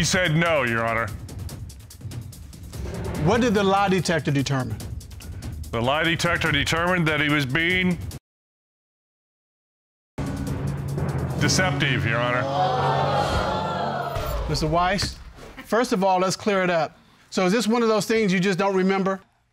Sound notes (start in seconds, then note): 11.9 audience exclaiming